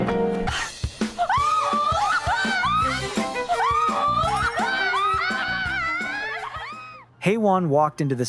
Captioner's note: screaming